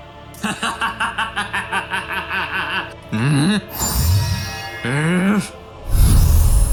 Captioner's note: laughs